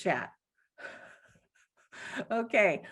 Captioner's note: chuckles